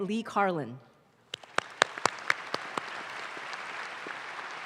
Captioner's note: audience claps